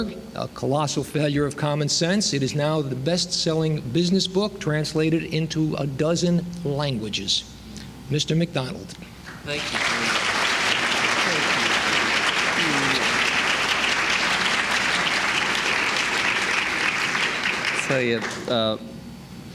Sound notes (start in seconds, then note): 9.4 applause